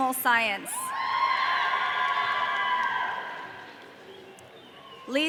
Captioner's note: audience cheering